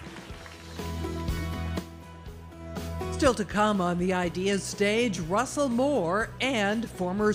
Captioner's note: applause